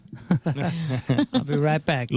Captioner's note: laughing